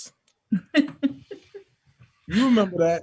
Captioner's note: laughs